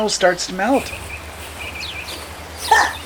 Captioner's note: sound of flowing water